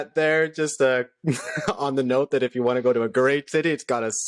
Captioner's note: laughter